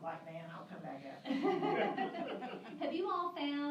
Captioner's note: laughter